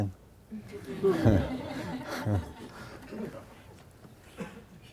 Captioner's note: audience laughs